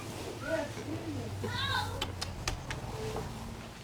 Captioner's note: makes kissing sounds